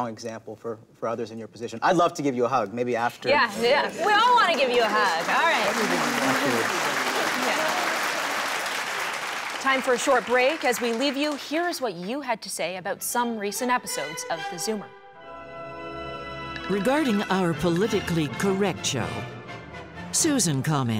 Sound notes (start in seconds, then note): 8.3 applause